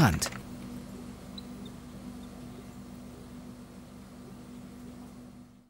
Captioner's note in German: Laborgeräusche